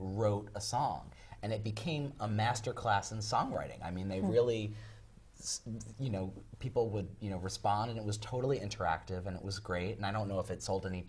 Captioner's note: laugh